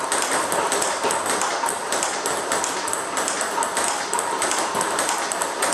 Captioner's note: ball ping pong hitting continues